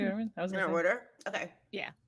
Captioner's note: speaking softly